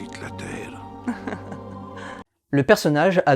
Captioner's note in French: gloussement sexy